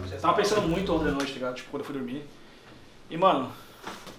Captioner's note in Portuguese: none